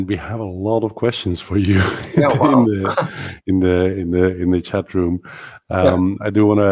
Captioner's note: laughs